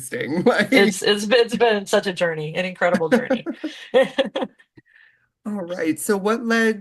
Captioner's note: chuckle